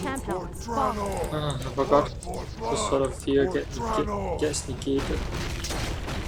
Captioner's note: sigh